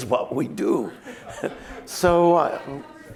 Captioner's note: laughter